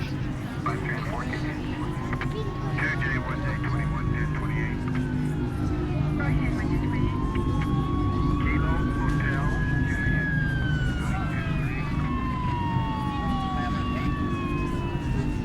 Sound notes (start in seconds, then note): 0.7 police radio chattering